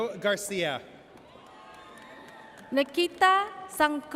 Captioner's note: audience cheers